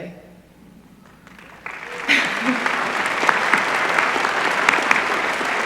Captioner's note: applause